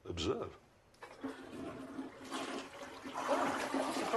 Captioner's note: flushes